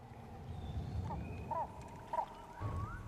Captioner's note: birds squawking and trilling